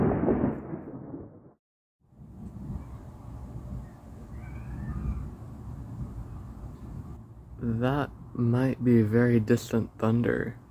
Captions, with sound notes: [Light wind, very quiet thunder] That might be very distant thunder.